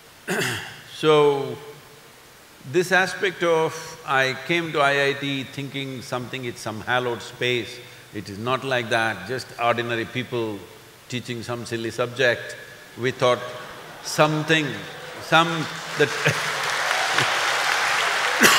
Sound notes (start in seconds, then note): 13.2 laughter/Applause; 16.5 laughs